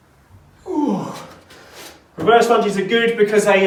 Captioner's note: grunts